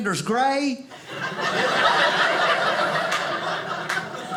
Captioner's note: audience laughing